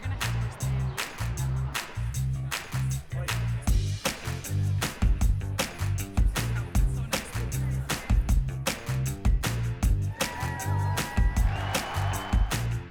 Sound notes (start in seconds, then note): 10.0 crowd cheering; 10.1 girls cheering